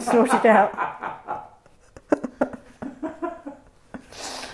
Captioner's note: all laugh